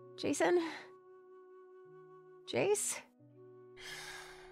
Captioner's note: sighs